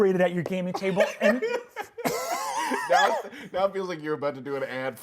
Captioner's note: laughing